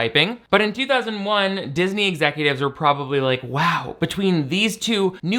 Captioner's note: none